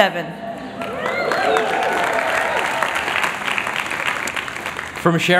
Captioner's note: applause